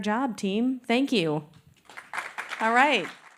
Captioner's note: applause